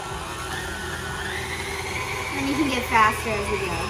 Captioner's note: mixer whirring increasing